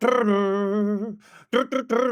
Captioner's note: humming